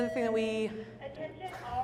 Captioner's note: intercom beeping